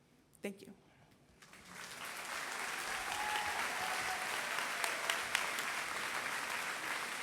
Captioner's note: applause